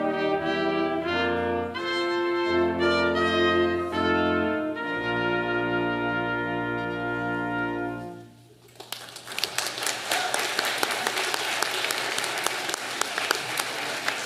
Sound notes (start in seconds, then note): 8.6 audience applauding